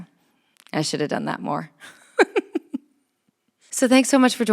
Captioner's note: chuckles